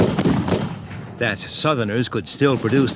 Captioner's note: guns bang